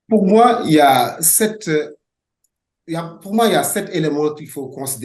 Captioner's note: speaking French